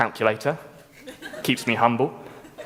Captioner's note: laughter